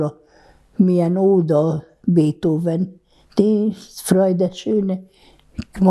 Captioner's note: german